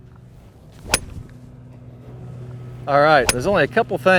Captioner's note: club hitting ball